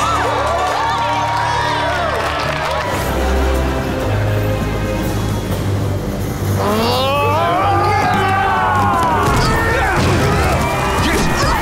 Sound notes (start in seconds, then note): 0.0 cheering; 6.8 screaming; 9.5 grunting